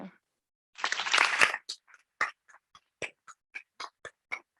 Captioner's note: audience clapping